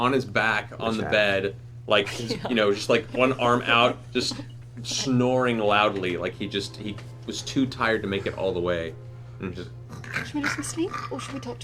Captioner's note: squeaks; snores